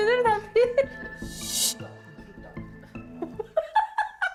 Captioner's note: pointing sound effect